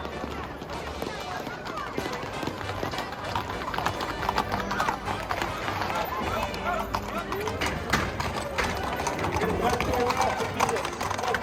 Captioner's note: loudspeaker announcement; clattering hooves